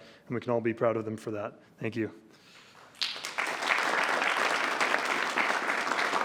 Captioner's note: applause